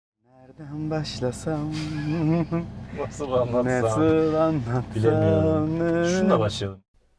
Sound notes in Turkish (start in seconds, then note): 4.2 gülüşme sesleri